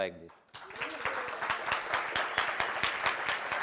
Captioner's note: applause